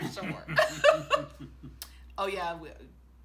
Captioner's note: both laughing